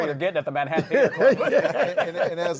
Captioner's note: laughs